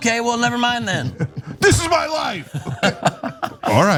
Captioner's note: laugh